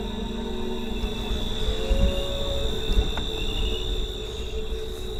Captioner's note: groan